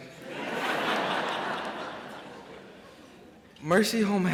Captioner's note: crowd laughs